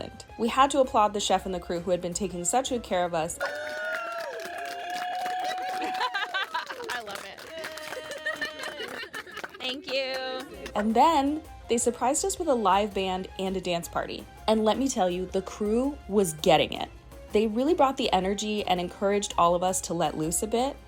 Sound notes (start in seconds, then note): 6.8 applause